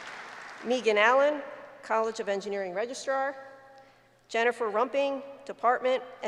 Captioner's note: applause